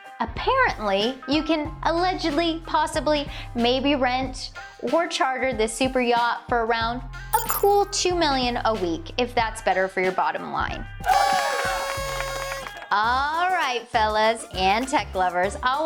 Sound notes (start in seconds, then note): 11.0 party horn trumpets, clapping and cheering